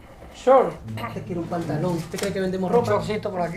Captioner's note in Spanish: Español; Español